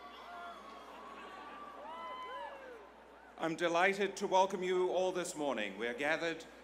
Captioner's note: applause